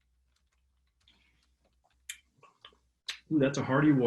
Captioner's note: smacking lips